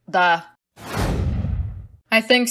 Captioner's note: whoosh